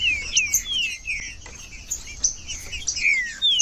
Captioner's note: trinca ferro cantando